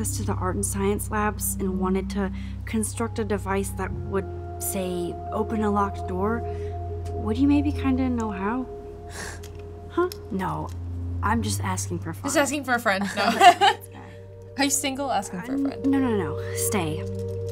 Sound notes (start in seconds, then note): 8.9 chuckles; 13.1 laughs